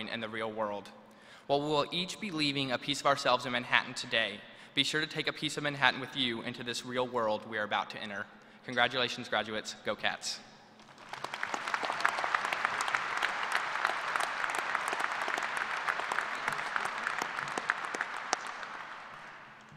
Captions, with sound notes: sense of family to the communities and people we are about to join in the real world. While we will each be leaving a piece of ourselves in Manhattan today be sure to take a piece of Manhattan with you into this real world we are about to enter. Congratulations, graduates. Go Cats! [ APPLAUSE ]